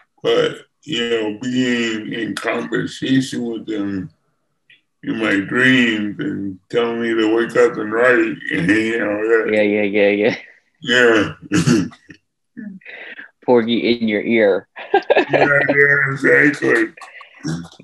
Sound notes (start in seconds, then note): 10.8 laughs; 14.8 chuckles